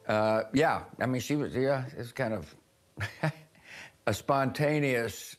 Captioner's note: chuckles